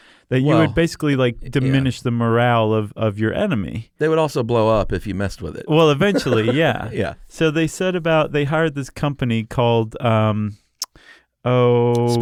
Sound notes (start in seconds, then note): 5.9 laughs